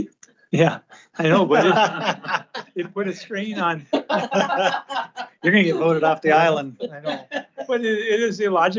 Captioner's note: laughter